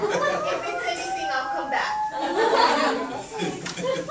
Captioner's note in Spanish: risas